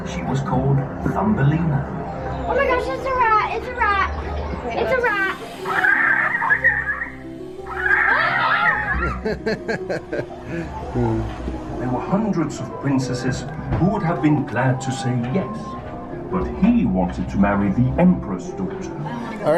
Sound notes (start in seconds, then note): 5.8 animal chittering; 7.6 kids exclaiming; 8.9 laughs